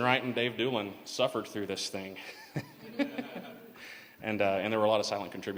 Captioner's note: laughter